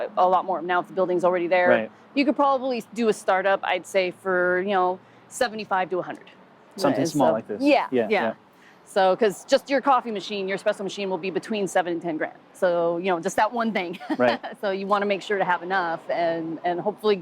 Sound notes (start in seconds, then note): 13.9 laughing